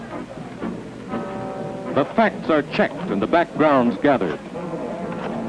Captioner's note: clicking and clacking of typewriters